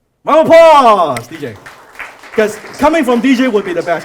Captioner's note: applause